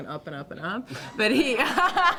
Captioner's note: laughter